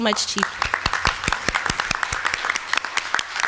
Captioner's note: applause